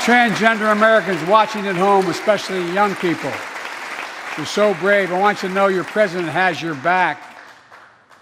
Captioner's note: applause